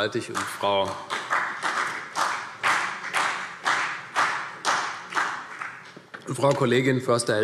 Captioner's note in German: Beifall CDU und BÜNDNIS 90/DIE GRÜNEN